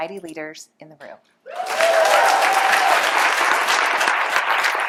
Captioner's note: cheers, applause